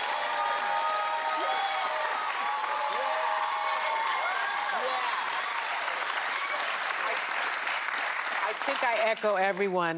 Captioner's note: cheers and applause